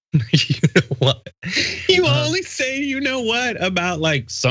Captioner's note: laugh